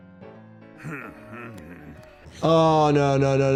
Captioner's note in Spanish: personaje paterno gimiendo